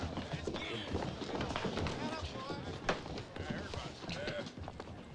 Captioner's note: feet scuffing